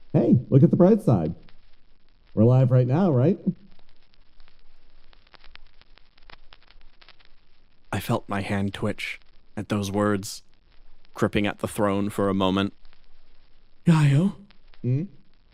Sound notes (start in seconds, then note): none